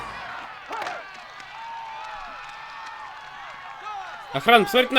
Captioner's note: cheering and applause